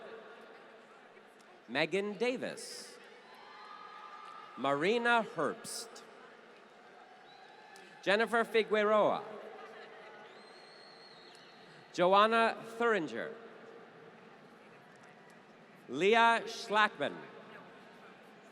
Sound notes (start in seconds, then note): 3.1 applause